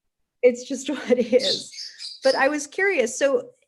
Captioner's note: laughs